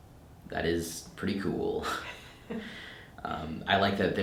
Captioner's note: chuckles